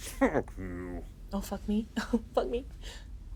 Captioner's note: chuckles